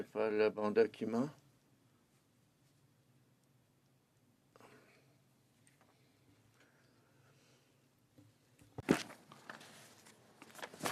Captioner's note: speaking French